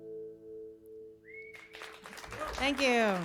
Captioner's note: cheers and applause